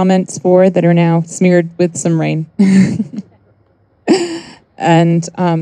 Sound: chuckles

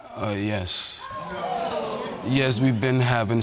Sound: audience exclaiming

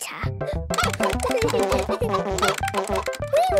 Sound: computer game chickens clucking; keyboard tapping

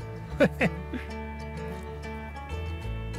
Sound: laughter

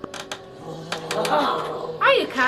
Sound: growls

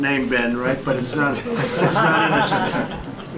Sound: laughter

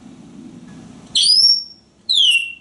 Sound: whistling

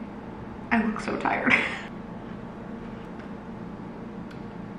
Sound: laughing

